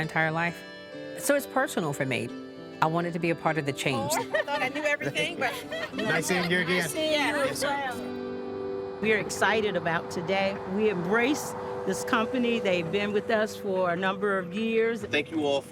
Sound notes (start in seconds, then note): 4.0 all laughing